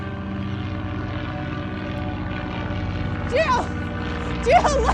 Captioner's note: airplane engine roaring